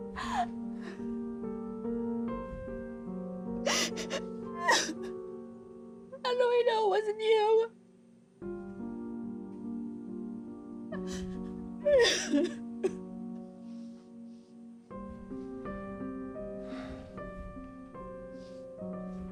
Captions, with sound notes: (soft piano music) (crying) - How do I know it wasn't you? (crying) (soft piano music)